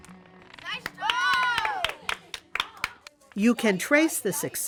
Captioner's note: kids cheer